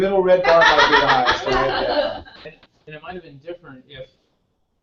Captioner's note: laugh